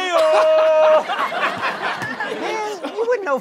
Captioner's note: laughs